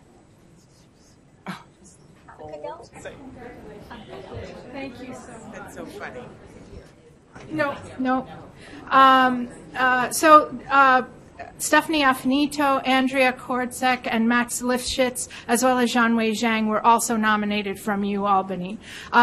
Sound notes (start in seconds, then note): 6.0 voiceover